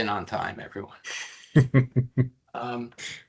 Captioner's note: laughing